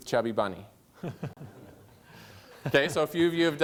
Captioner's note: laughter